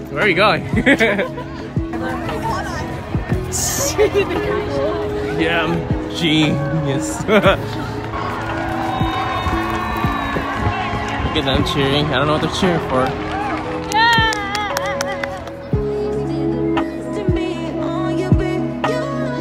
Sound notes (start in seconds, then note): 7.4 crowd cheering